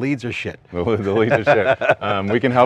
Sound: laughs

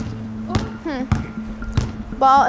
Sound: ball bouncing

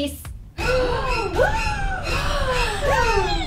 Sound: gasps

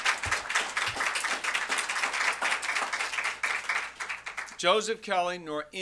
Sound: applause

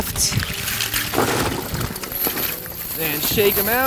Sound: chains clattering

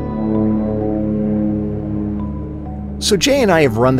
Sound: plane engine roaring

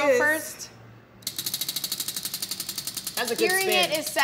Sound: wheel clicking

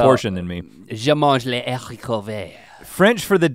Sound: speaks in foreign language

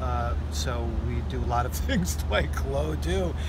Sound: laughs

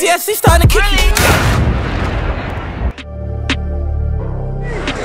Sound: boom; crowd chatter

